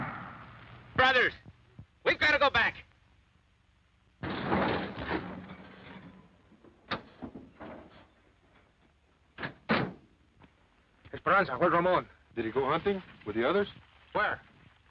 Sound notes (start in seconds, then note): 6.2 car doors click; 8.9 car doors thud